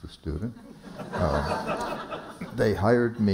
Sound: laughter

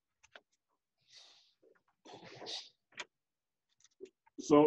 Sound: pages flipping

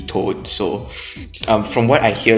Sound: sniff

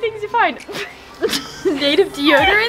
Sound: both giggle

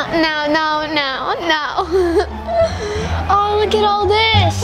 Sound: laughs

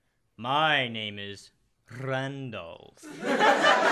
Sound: rolling R

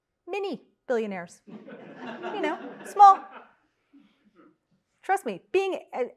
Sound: laugh

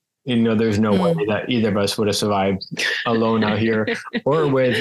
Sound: laughs again

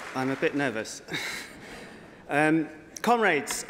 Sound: applause

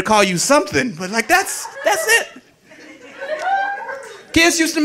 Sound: audience laughing

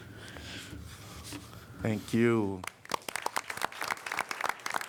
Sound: applause

